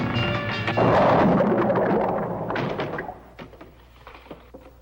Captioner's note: blocks thudding aggressively